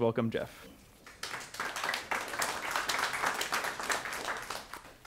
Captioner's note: clapping